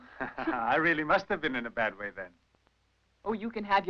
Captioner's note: chuckling